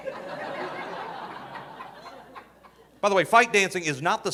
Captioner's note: audience laughing